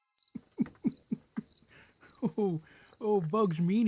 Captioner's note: chuckling